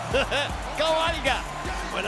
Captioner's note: laugh